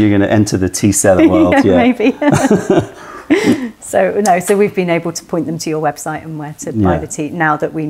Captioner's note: laughter